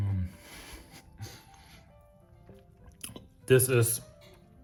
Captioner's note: baker laughs